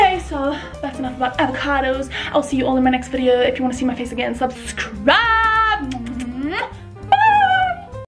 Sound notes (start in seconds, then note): 5.8 kisses